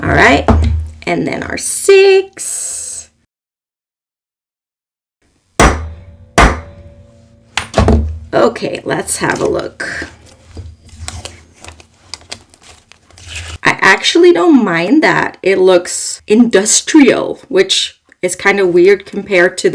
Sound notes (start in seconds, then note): 5.6 banging sounds